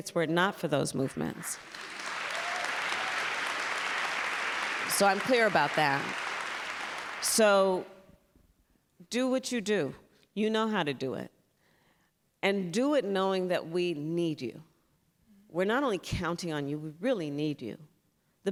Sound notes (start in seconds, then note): 1.4 applause